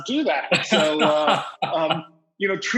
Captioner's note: laughs